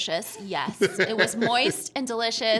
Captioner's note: laughing